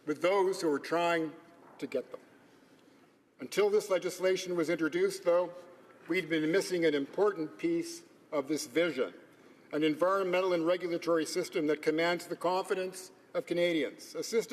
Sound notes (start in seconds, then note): none